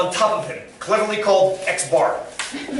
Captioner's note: laughter